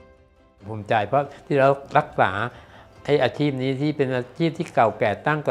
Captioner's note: speaking foreign language